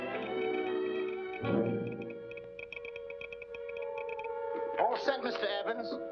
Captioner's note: telegraph machine tapping